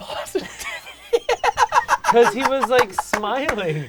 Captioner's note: laughing